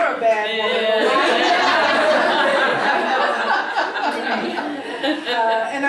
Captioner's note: laugh